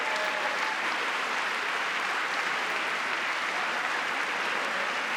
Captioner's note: cheering; applause